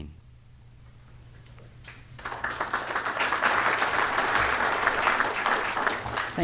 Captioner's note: applause